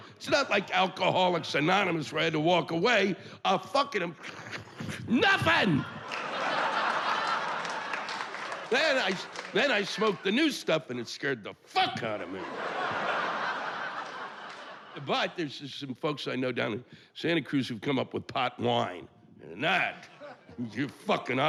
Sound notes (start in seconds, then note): 3.2 inhales deeply; 5.4 yelling